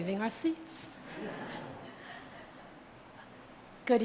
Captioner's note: audience laughs